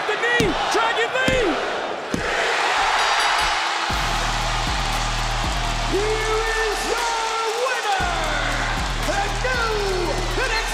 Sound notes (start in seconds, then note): 3.0 bell ringing; 5.6 crowd cheers